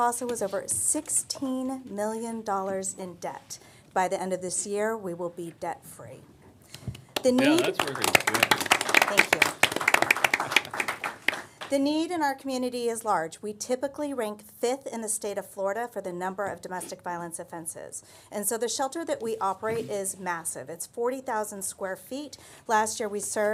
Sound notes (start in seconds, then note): 9.5 applause